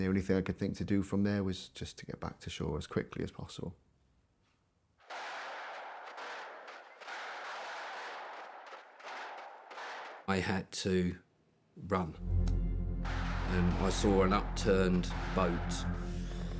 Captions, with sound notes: And the only thing I could think to do from there was just to get back to shore as quickly as possible. [distant gun fires rapidly] I had to run. [tense music] Then I saw an upturned boat,